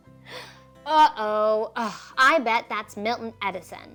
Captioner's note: gasps